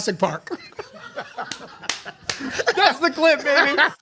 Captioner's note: they laugh; claps